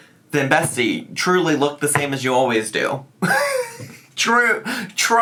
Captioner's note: laughs